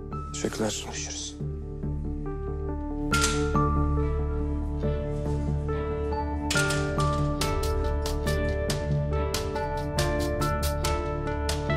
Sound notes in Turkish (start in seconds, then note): 3.1 Kapı açıldı